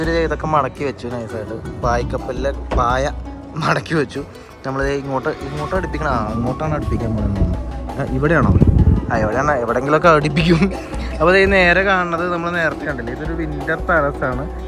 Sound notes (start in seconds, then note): 10.4 laughter